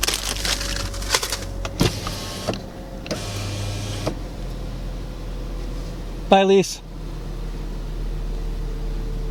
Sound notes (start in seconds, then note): 0.0 bag crinkling; 3.1 window motor whirring